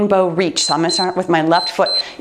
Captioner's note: timer beeps